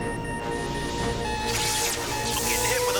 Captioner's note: crackling